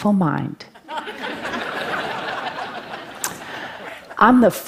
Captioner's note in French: Rires